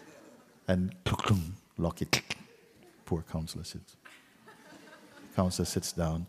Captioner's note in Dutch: gelach